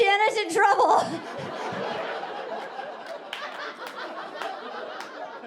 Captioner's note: audience laughing